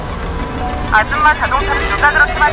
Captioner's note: Tiếng ồn phát sóng trực tiếp